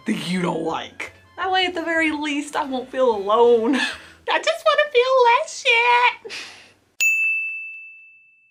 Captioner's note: ding